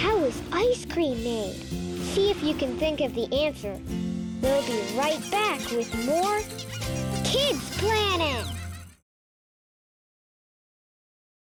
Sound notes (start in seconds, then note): 5.4 bright music; 8.7 children laughing